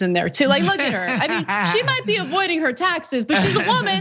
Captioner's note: laugh